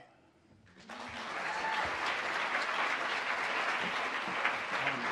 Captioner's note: audience applauds